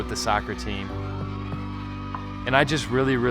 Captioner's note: crowd cheers